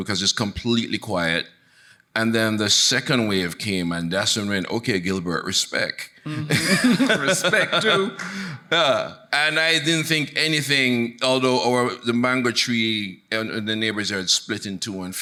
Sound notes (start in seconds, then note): 6.3 laughs; 6.4 audience laughing